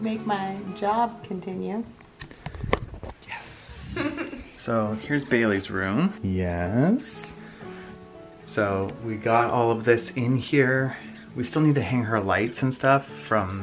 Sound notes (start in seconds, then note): 3.7 giggles